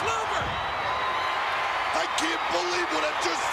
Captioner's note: crowd cheers